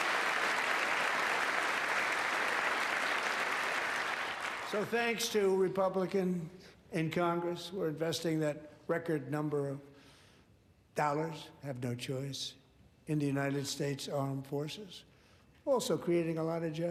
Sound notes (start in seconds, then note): 0.0 applause